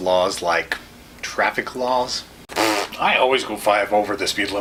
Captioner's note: blows raspberry